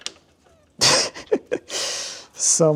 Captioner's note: chuckling